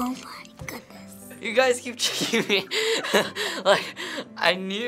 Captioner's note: laughs